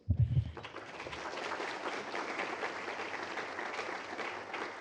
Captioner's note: applause